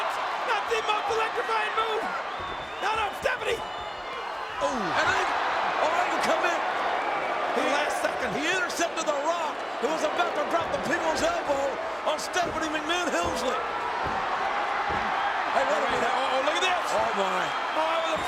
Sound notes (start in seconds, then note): 14.0 crowd cheers